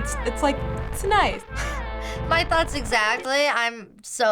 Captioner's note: chuckling